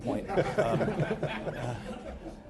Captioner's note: laughter